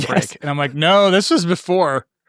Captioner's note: laughing